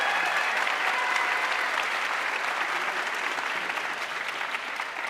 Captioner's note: audience cheering and applauding